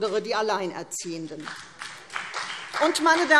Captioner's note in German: Beifall CDU